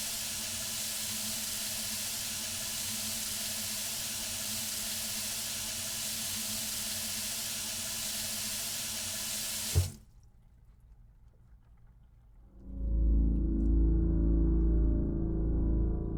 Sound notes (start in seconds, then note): 9.6 faucet thumps; 12.4 gentle, ominous music